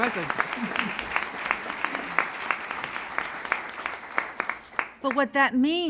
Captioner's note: applause